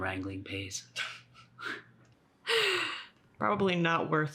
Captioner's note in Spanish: Ambos se ríen